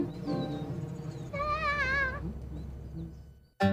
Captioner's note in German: Verzweifelte Laute